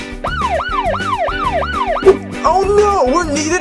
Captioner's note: emergency siren